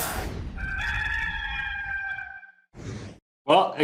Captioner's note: rooster crowing